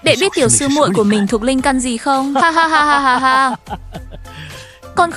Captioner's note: tiếng cười